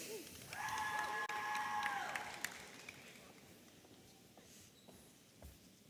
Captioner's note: audience applauding and cheering